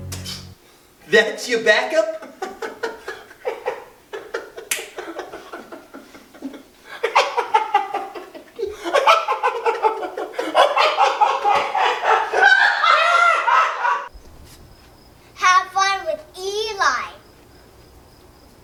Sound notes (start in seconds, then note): 4.0 laughter